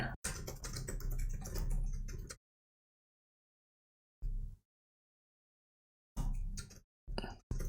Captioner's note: blank Audio